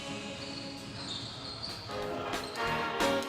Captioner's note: shoes squeaking on basketball court